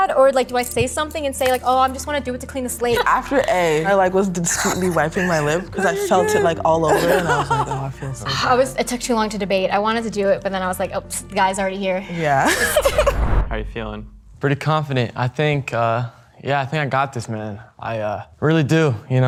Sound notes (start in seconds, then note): 12.4 laughing